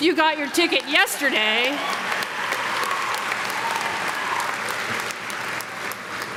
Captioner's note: audience clapping